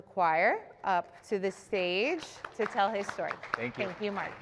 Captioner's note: applause